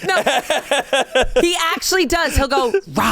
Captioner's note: laughs